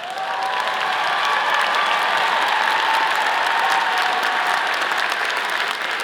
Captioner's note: all cheering; all applauding